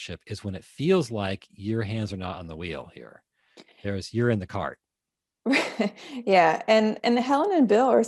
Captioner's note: laughing